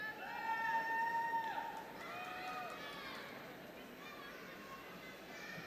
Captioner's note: audience cheering continues